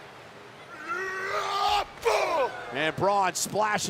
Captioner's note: Strowman yelling